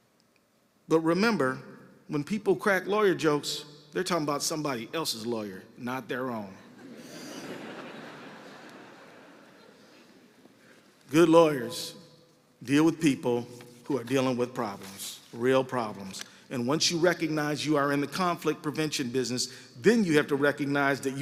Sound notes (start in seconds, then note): 8.6 laughter